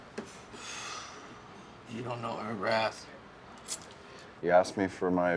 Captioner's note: sighs